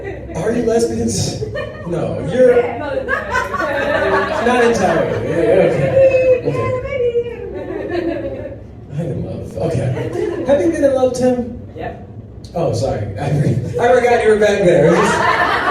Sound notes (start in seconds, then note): 0.9 crowd laughs; 1.8 women mumble in disagreement